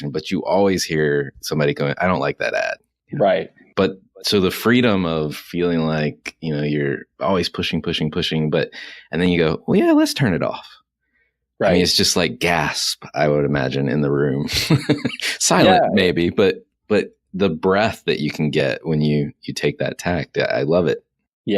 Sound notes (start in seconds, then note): 14.4 chuckles